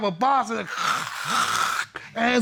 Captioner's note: imitates ripping